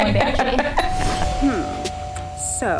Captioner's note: laughing; doorbell